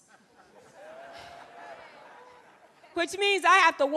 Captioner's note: audience laughing